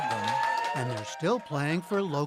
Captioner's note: cheering and applause